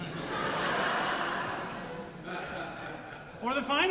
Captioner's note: audience Laughter